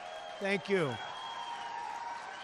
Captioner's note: applause